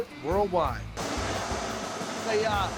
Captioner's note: steam blowing